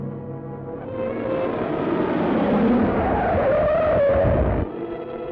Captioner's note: car zooms away